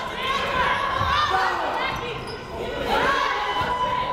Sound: crowd cheering

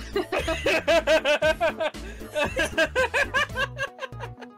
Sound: laughing

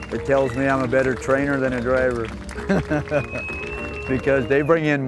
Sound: laugh

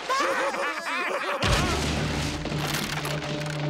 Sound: laughing; smashing

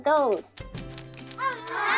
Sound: coins dropping

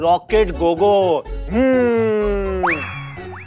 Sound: imitates flying sound

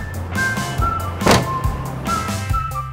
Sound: shuts trunk

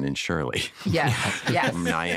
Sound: laughter

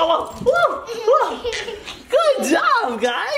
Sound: laughing

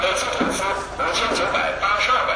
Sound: loudspeaker

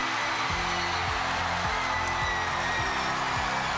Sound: crowd cheering; upbeat music playing; team cheering

